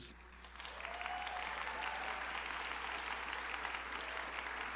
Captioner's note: crowd applauding